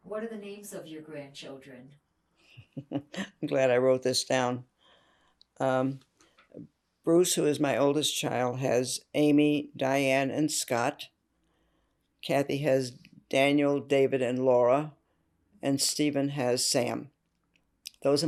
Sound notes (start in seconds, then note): 2.6 laughing